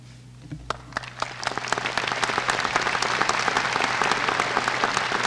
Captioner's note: applause